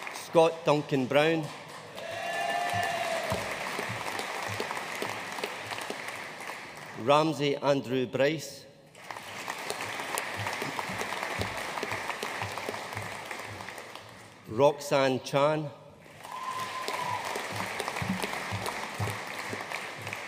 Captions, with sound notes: Scott Duncan Brown. (AUDIENCE CHEERING AND APPLAUDING) Ramsay Andrew Bryce. (AUDIENCE APPLAUDING) Roxanne Chan. (AUDIENCE CHEERING AND APPLAUDING)